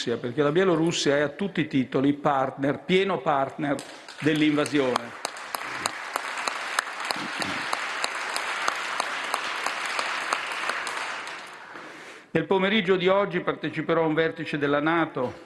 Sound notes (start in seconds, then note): 5.4 roar of applause